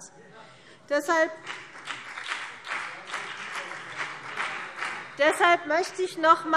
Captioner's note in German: Beifall CDU und BÜNDNIS 90/DIE GRÜNEN